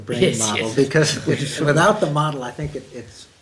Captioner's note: laughs